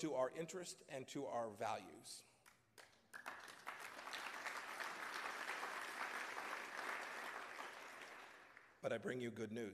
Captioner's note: applause